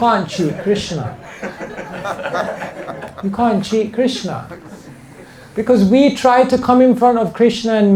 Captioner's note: laughter